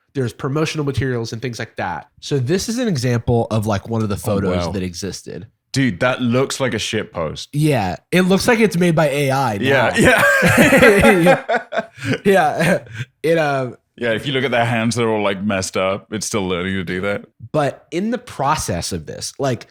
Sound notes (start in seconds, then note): 11.9 laughter